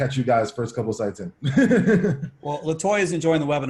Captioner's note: laughs